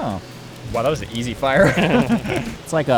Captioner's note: all laugh